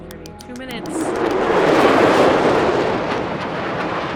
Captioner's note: jets roaring